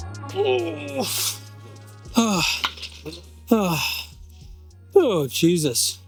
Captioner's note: groans